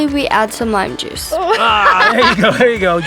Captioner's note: laughing